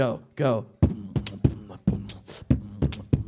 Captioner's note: beat boxing